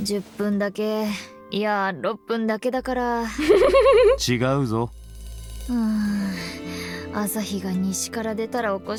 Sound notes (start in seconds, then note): 3.4 chuckles